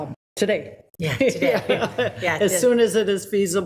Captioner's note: people laughing